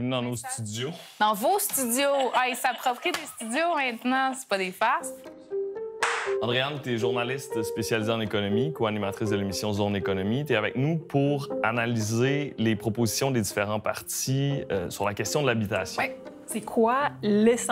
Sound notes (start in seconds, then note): 6.0 clap